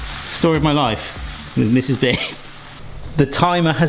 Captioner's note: timer beeps